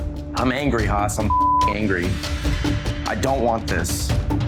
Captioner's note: beep